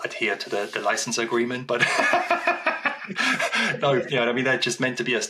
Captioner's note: laughs